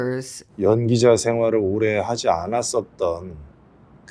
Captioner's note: speaks Korean